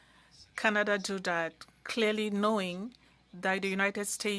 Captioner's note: speaking French